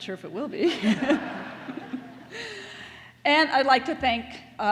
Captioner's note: laughter